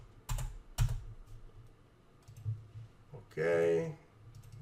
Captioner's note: keyboard clacks